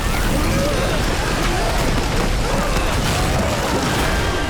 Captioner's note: screaming